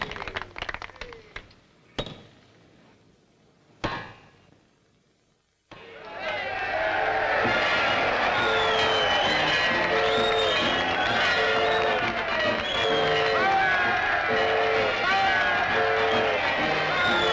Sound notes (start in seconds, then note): 5.4 cheers and applause; 6.4 train whistle blowing, up-tempo music plays